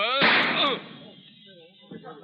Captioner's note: gun fires; groans